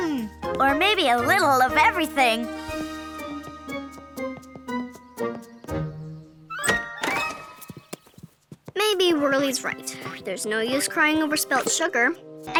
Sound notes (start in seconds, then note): 3.2 cheery playful music; 6.6 door clatters